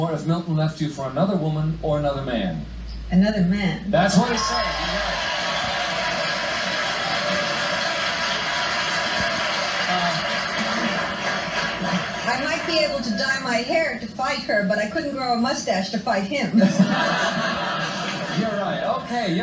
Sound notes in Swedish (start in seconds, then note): 4.1 Publiken jublar; 16.5 Publiken skrattar